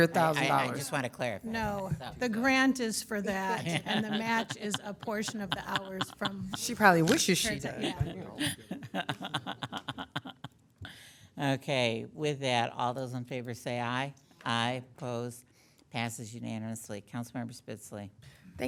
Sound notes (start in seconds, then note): 3.9 members laughing; 9.5 laughing